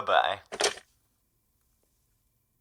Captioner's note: click